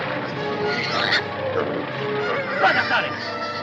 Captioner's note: pig squealing; speaking foreign language